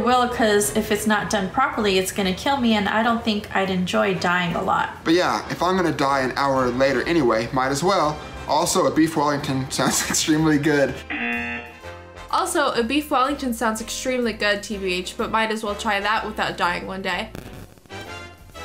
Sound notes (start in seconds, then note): 11.0 buzzer